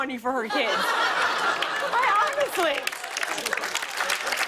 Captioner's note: applause